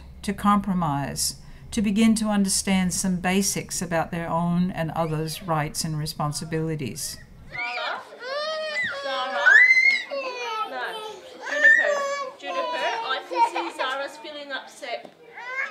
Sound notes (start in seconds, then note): 7.5 squeals